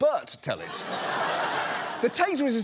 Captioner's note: audience laughs